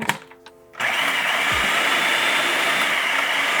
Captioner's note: food processor whirring